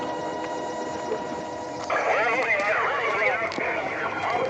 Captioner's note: various voices on police radio